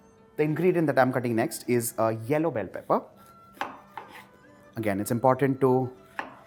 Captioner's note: none